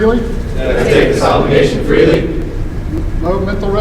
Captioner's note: commissionees repeat